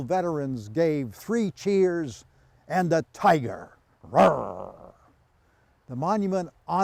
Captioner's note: growls